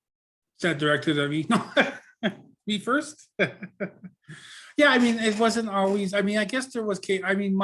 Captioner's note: laughs